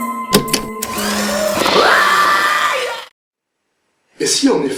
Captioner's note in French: Bruit du mixer